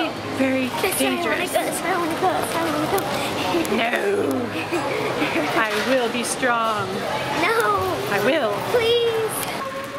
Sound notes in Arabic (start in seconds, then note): 4.3 ضحك